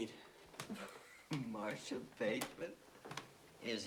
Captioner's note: chuckles